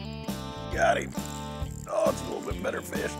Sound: strained

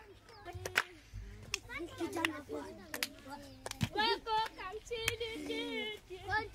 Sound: kids clapping and talking

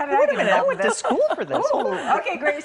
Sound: laughter

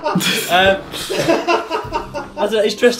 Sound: laughs

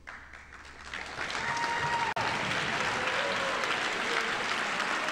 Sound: audience applauding

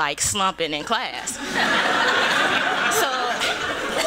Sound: laughter

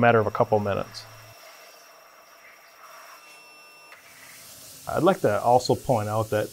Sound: machine whirring

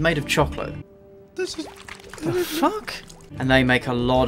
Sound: cries

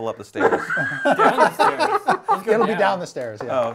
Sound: laughing

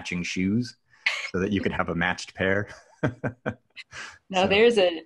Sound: laughs

